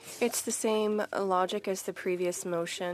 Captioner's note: speaking French